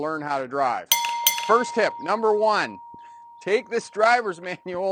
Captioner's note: bell rings